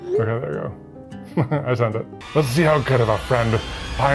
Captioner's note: chuckles